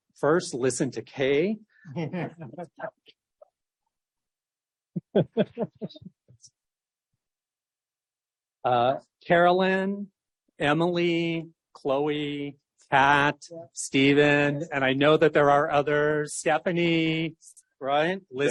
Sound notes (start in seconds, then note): 1.8 laughter; 1.8 laughs